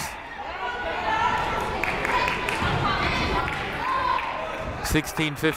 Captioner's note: crowd murmuring